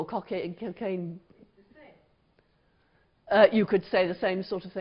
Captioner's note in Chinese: 無聲